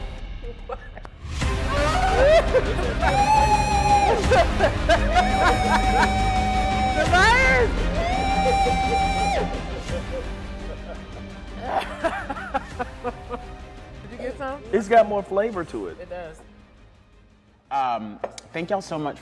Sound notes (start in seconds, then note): 0.2 screaming; 1.6 laughing; 9.0 screaming; 11.0 laughing